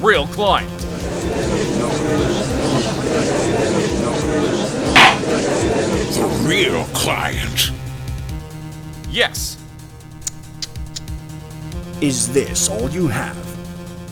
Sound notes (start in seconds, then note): 0.7 gallery chattering; 5.0 gavel slams!